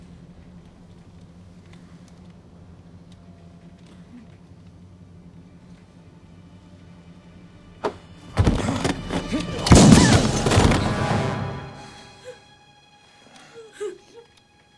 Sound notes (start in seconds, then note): 8.4 gunshots; 12.0 Coquina whimpering